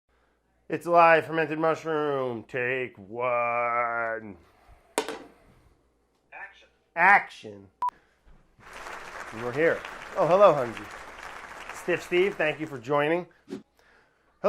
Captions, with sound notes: - It's alive, Fermented Mushroom, take one. - Action. - Action! [audience applauding] And we're here, oh hello Hunzy. [audience applauding] Stiff Steve, thank you for joining.